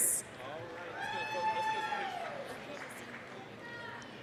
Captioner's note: applause, cheering